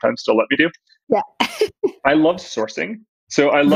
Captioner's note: laughs